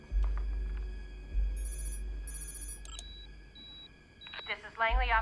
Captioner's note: electronic Beeping